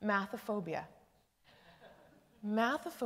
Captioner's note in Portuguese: Risos